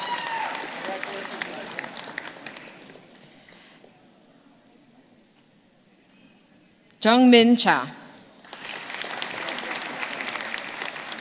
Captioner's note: names being called